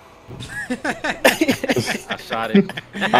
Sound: laughing

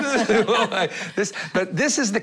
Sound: laughter

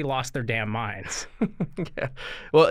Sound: chuckle

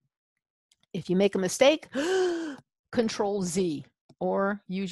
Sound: gasps

